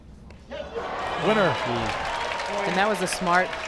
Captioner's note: crowd cheers